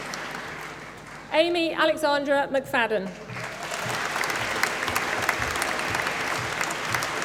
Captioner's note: applause